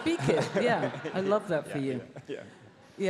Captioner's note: audience laughs